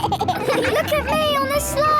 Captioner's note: giggles